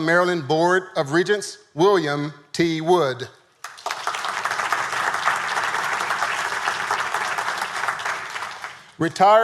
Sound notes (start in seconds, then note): 3.6 audience applauding